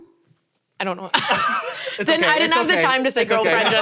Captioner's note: laughs